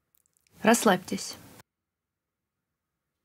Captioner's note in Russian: пауза